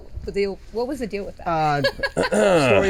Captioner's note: clearing throat